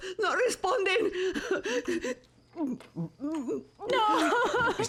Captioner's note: sobbing